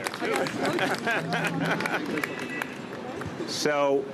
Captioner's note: applause